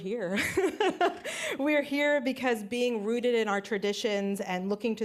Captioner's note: laughs